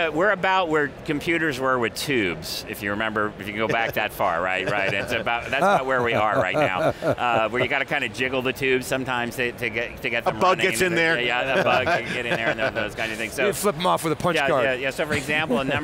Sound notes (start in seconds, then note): 4.3 men chuckle; 11.4 laughs; 15.1 chuckles